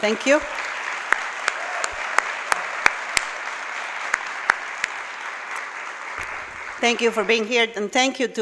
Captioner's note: applause